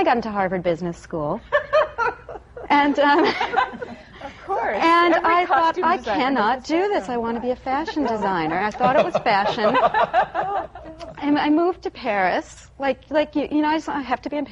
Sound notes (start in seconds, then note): 1.5 laughter; 1.5 laughs; 6.8 laughter